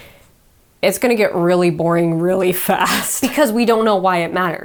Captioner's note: chuckles